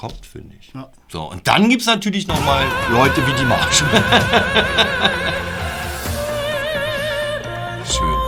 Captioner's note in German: Lachen